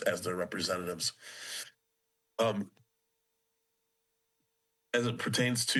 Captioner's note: pause